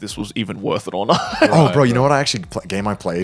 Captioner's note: laughing